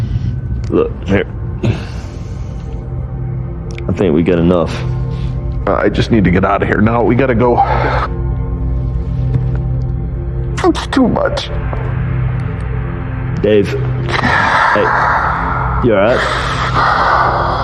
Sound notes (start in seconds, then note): 7.3 exexhahales; 10.3 voioice b brereakin; 13.8 brbreaeathining g deep